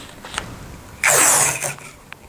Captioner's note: the sound of tape